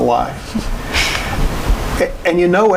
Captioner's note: chuckling